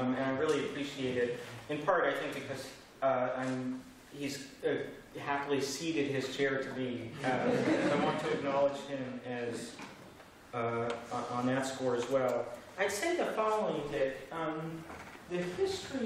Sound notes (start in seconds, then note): 7.2 laughter